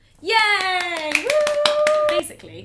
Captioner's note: both applaud